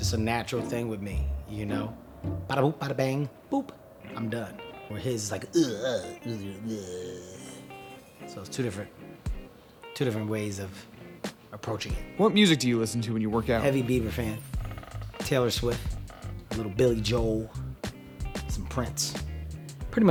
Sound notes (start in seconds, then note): 5.2 groaning